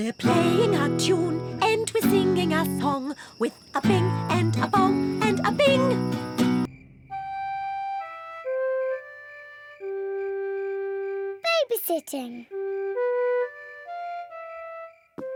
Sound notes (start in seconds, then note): 6.6 crickets chirping